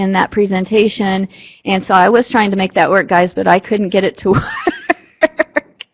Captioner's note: laughter